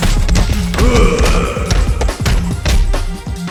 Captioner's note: Goon's death gurgle 2